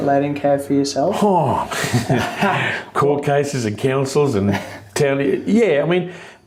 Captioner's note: sighs